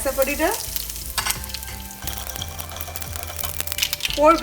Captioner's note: pan sizzling